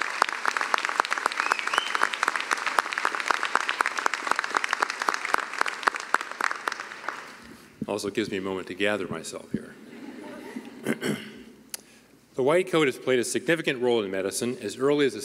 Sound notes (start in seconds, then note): 4.7 cheering and applause; 11.4 laughter